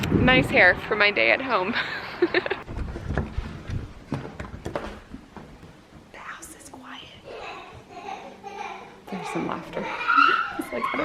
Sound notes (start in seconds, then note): 1.8 laughing; 3.1 door quietly opening; 6.3 whispering; 7.8 child laughter